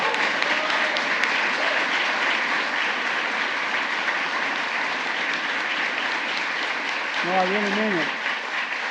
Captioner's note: applause